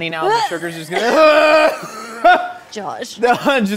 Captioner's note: both cough